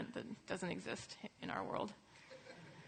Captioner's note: laughter